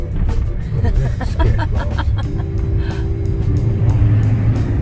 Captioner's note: nervous laughing